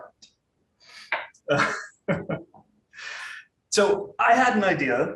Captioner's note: laughing